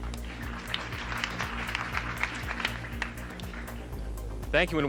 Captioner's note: audience applauding